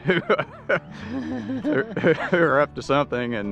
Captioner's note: laughs